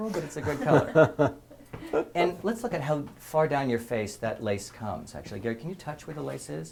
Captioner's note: laugh